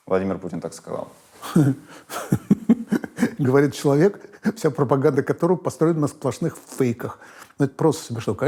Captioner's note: laughs